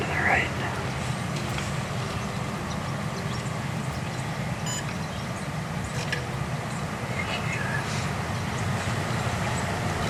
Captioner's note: light wind